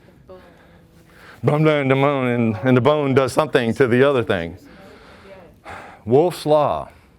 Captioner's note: mumbles